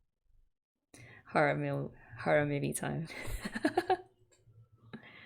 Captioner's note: laughs